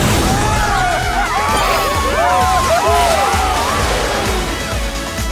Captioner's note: cheering